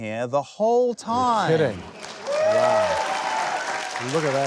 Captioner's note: cheering, applause